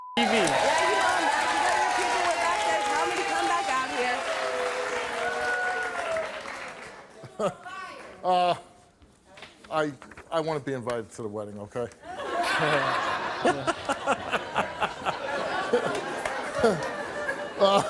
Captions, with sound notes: I want to be invited to the wedding, okay? (audience laughs)